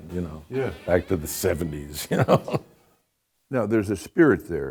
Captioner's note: laughs